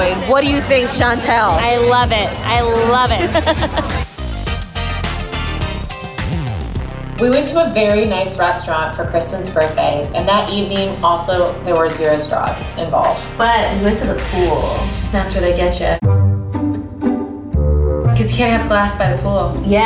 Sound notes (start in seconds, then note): 2.8 laughs; 4.5 upbeat music; 16.1 playful music